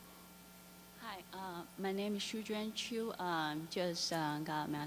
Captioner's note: voiceover